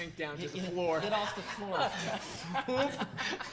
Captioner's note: woman laughing